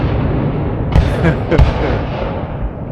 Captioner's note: laugh